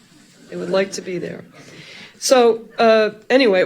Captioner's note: audience laughing softly